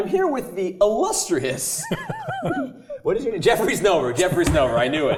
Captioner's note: laugh